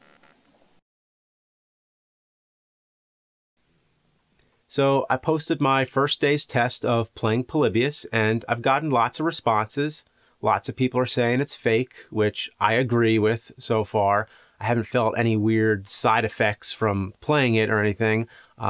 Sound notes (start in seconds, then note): none